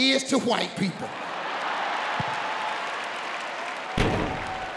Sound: audience cheering

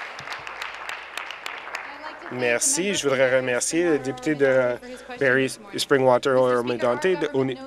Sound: applause

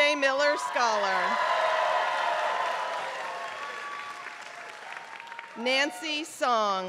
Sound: applause

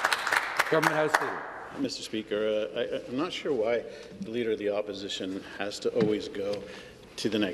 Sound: applause

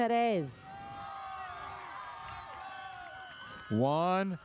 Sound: audience cheers

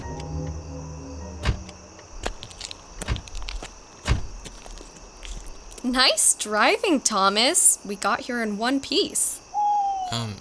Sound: barn owl hoot

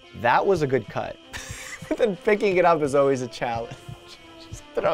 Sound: chuckles

